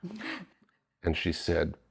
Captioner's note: laughing